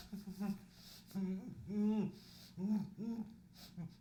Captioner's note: muffled grunting